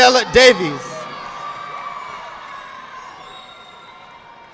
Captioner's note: audience clapping